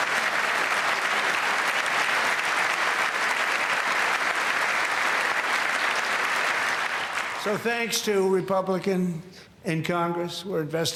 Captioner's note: applause